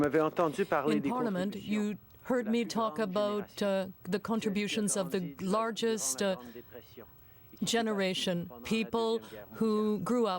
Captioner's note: speaking french